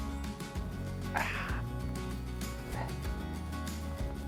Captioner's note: grunts